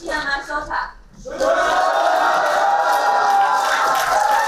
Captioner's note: applauding